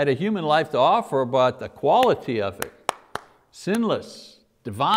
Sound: claps

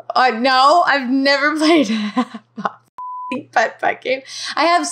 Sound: beep

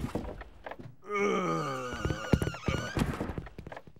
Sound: groans

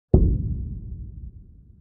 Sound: scary thump

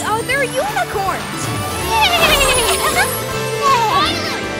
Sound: neighing

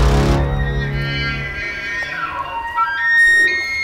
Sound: elk call

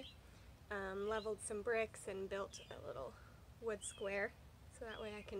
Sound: birds chirping

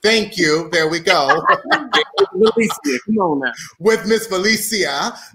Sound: all laughing

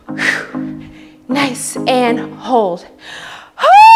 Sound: exhales

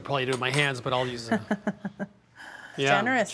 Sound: laughs

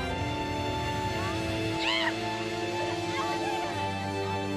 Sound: shrieks

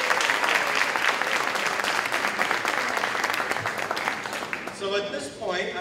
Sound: applause

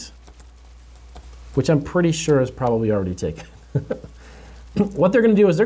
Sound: laughs

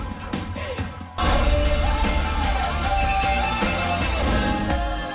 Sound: beeping

